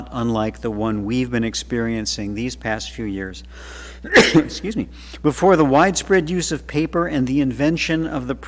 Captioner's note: coughing